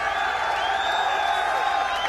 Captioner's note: cheers and applause